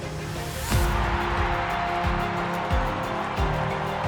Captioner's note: crowd roaring